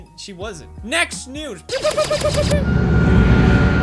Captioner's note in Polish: pew pew pew pew pew